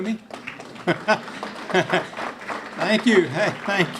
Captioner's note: clapping